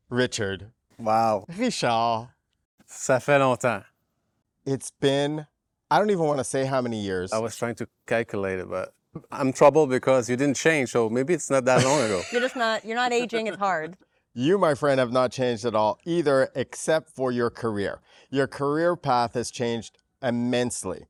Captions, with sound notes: Richard. Wow. Richard, it's been, I don't [in french] it's been a long time it's been, I don't even want to say how many years. I was trying to calculate it but I'm troubled because you didn't change so maybe it's not that long ago. You're just not, you're not aging, it's hard. You my friend have not changed at all either except for your career. Your career path has changed immensely.